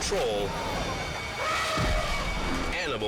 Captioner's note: attacking elephant trumpets